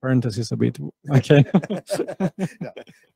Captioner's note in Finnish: Laughs